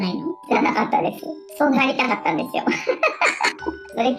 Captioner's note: laughs